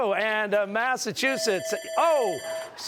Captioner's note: bell ringing